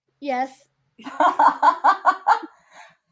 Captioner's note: laughing